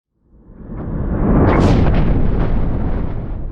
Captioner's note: thunder